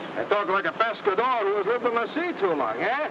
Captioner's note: speaks in foreign language